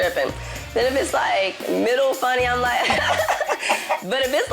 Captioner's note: chicken noises